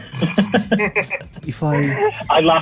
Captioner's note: laughs